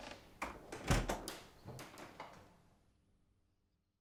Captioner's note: latch clicking